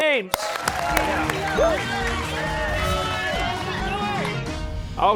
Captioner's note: cheers and applause